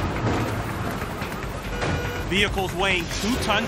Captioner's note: car alarm blares